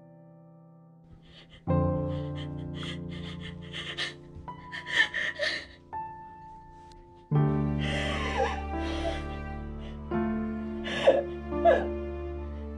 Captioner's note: sobbing